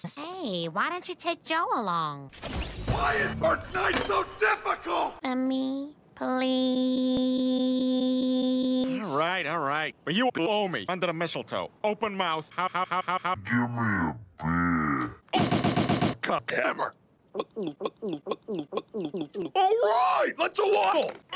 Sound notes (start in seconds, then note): 2.5 Fortnite death sound